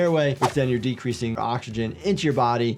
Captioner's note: audio whooshes